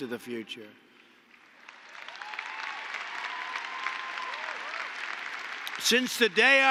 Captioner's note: applause